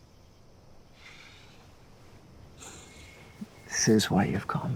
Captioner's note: sighing